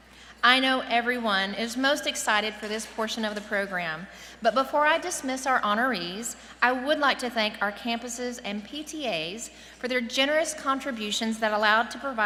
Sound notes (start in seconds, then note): none